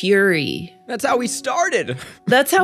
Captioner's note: chuckles